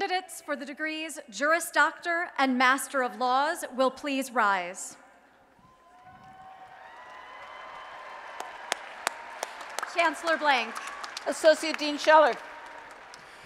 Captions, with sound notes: >> Candidates for the Juris Doctor and Master of Laws will please rise. [ Applause and Cheering ] Chancellor Blank. >> Associate Dean Scheller.